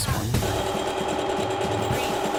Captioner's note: sewing machine whirring